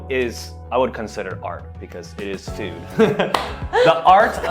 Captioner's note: laughs